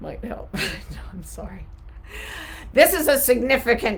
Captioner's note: chuckling